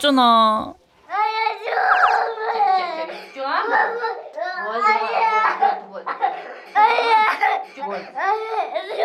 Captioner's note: crying